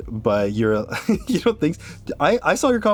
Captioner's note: laughs